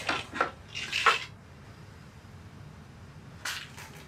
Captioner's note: pills rattling